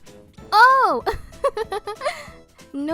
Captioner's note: giggle